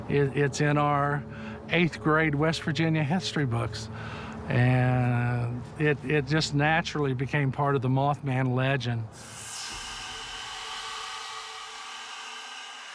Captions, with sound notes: It's in our eighth grade West Virginia history books, and it just naturally became part of the Mothman legend. (echoey, eerie cries)